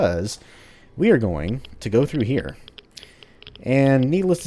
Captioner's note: geiger Counter clicking